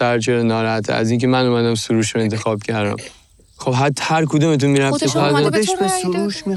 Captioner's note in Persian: صدای خرناس